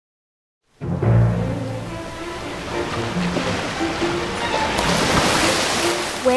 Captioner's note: dramatic music; water splashing